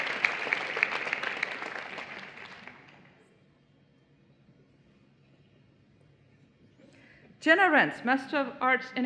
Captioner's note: applause